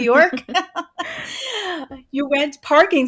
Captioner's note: both chuckling